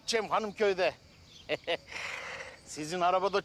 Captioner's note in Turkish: Gülme sesi